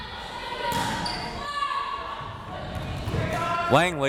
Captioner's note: whistle tweeting; crowd members shouting